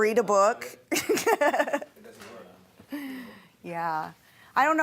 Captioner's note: laughing